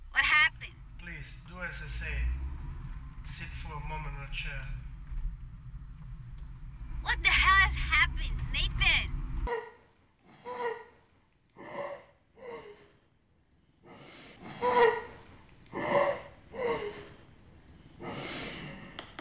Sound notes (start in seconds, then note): 8.5 woman pants and whines